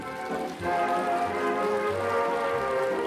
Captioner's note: applause